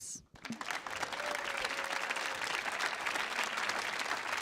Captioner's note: audience applauds